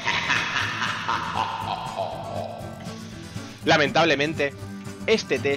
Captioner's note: muhahahaha